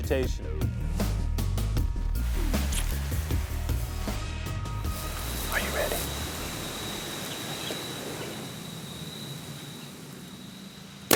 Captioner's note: whispering